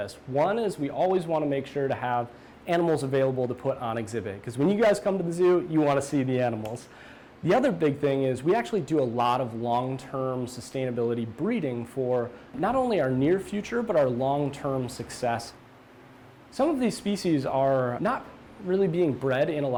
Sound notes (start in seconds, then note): none